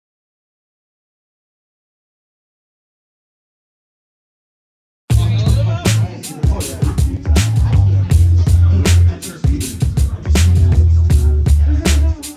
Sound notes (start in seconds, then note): 5.1 chattering; 5.1 mellow hip hop music